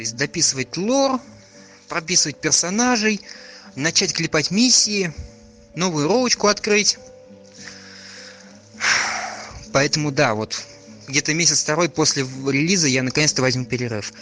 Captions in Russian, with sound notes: То есть дописывать лор, прописывать персонажей, начать клепать миссии, новое РП открыть... (*Вздох безысходности*) Поэтому, да.Вот, на месяц-второй после выхода релиза я наконец-то возьму перерыв...